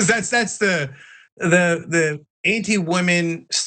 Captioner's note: laugh